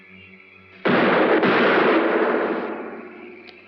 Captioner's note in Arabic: طلقات نارية